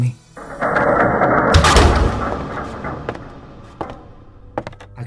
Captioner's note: terrifying soundscape